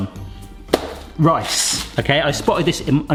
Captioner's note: package bangs